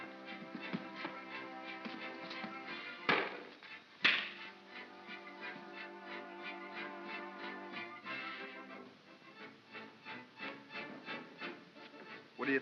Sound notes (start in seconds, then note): 0.2 soft whimsical music; 4.0 pop & crack; 5.7 soft whimsical music